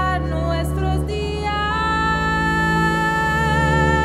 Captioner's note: none